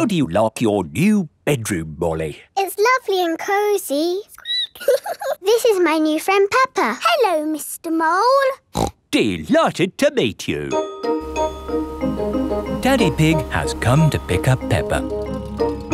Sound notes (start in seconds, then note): 4.6 squeaks; 8.7 snorts